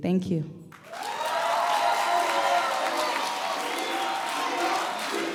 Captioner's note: audience applause